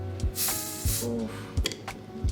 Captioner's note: bottle hissing